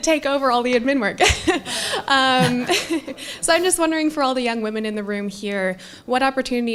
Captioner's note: laugh